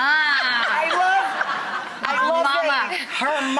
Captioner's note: all laugh